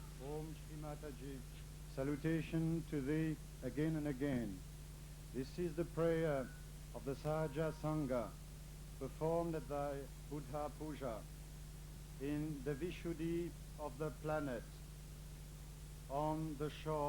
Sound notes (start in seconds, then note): none